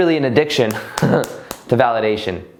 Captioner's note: claps; laughs